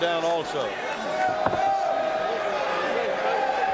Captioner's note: audience cheering